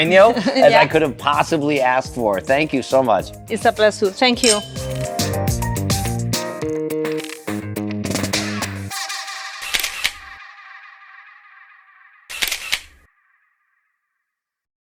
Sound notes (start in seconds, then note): 6.3 upbeat music fades out; 10.1 camera clicking sound effects